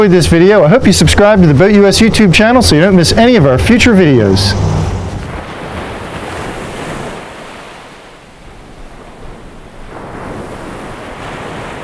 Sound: waves lapping

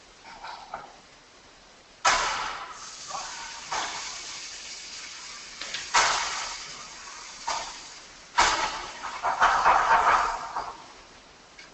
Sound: mechanical noises from on-screen video being played

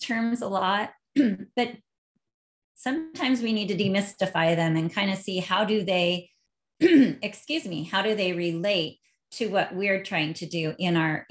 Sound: clearing throat

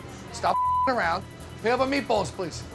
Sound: beep

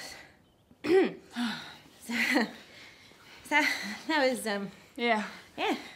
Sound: clears throat

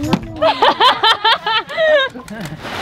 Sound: laughter

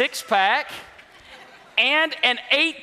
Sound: congregation laughs

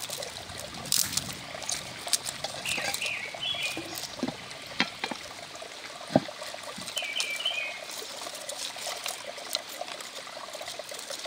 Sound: sound of birds

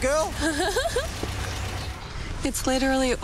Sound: laughter

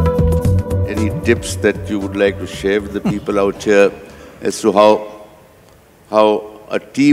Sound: Sadhguru laughs

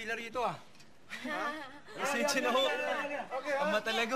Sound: chuckling

